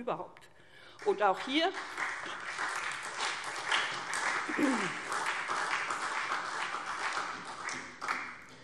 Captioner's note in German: Beifall SPD